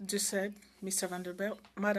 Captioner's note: speaking in French